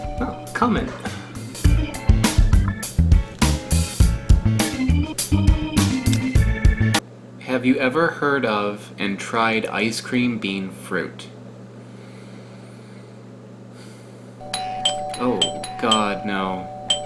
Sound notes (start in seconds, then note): 12.5 sighs; 14.4 more ringing